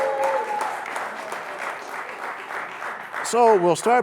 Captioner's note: cheers and applause